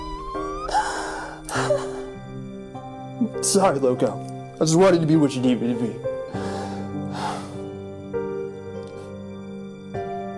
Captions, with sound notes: Sorry, Loco. I just wanted to be what you needed me to be. (heavy sigh)